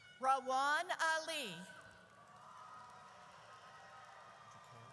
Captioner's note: audience cheers